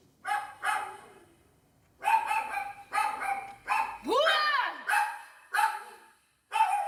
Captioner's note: dog barking